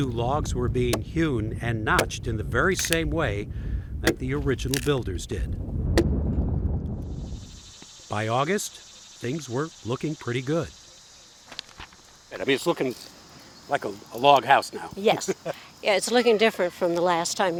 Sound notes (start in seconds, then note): 4.6 wood cracking; 7.7 bugs chirping; 15.2 laughing